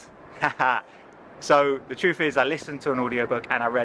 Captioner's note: laughs